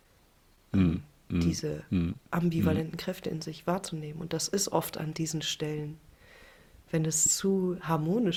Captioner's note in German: räuspern